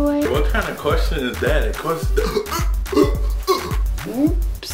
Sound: gasps

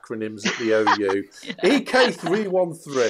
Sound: laughs

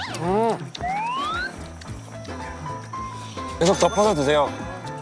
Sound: everyone is busy slurping

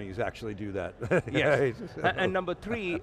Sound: laughing

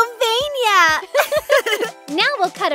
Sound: both giggle

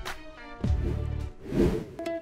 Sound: scene change swooshes; uplifting bachata music

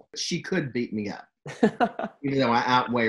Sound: laughs

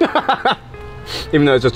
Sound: chuckles

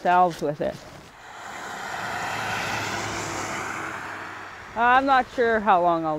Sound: sound of car getting closer, then farther away

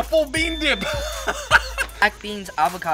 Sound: laughing

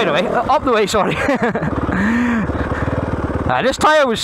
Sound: laughs

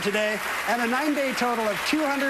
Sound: applause

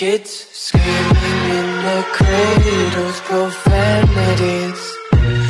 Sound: screaming in their CRADLES, profanities

